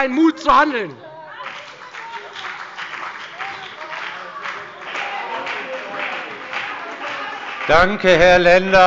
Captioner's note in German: Beifall bei der FDP und der SPD - Zurufe von dem BÜNDNIS 90/DIE GRÜNEN